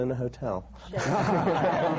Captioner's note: laughter